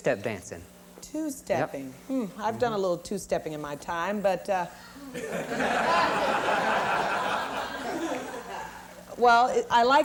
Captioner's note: laughter